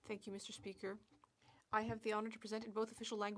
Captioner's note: speaking French